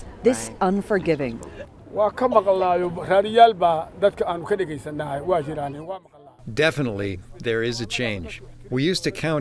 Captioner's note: through translator